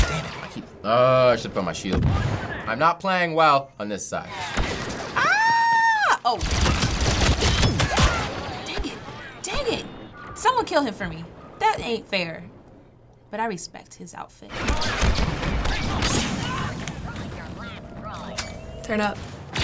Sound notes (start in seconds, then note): 6.4 loud laser blasts